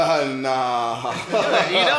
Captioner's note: laughs